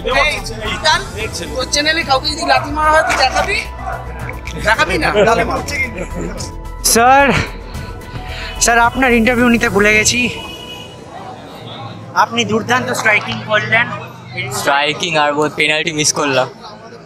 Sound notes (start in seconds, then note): 5.9 laughter